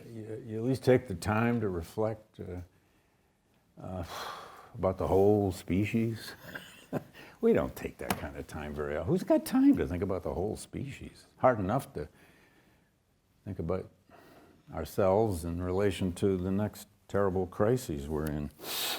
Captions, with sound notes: you at least take the time to reflect about the whole species? (chuckles) We don't take that kind of time very often. Who's got time to think about the whole species? Hard enough to think about ourselves in relation to the next terrible crises we're in.